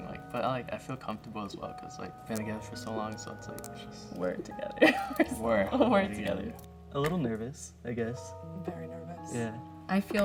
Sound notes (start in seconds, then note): 4.8 laughs